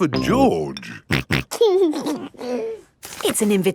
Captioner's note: snorting and giggling